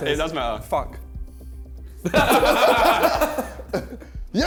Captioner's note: men laughing